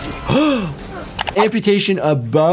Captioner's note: Jordan gasping; screen clicking